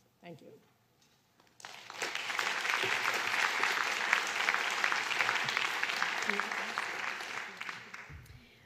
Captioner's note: applause